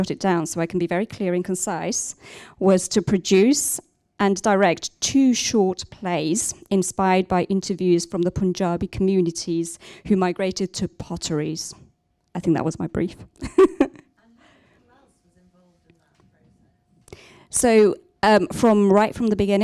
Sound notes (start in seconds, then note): 15.7 laughs